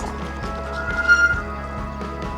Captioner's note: brakes squeal